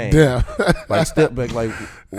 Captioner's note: laughing